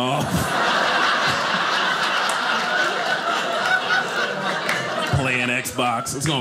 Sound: audience laughing

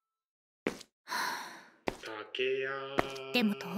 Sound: sigh

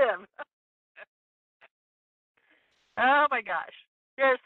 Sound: laughing

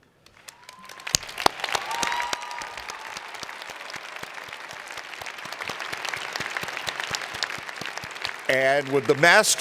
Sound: cheers and Applause

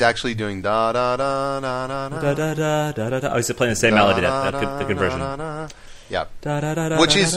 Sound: hums

